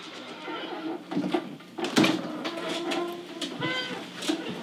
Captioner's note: door creaking